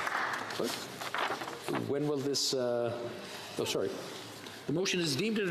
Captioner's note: some Applause